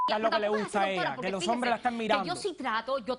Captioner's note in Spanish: Bip